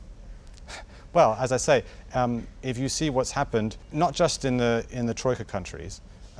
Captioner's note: laughs